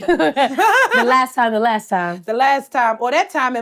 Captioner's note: laughs